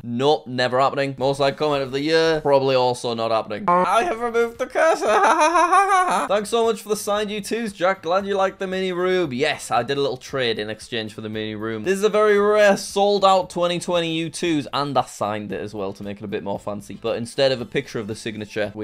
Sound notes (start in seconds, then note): 4.6 fake laughs